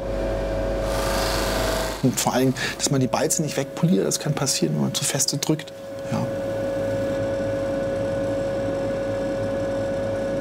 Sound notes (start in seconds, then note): 0.0 buzzing polishing noise; 7.3 humming polishing machine